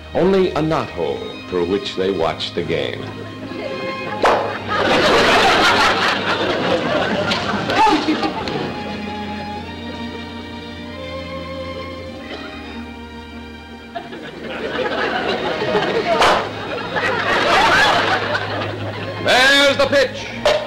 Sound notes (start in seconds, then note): 4.2 popping sound; 4.9 audience laughter; 13.8 audience laughter; 16.2 popping sound; 17.0 audience laughter; 20.4 crack